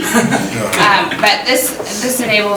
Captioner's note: soft chuckling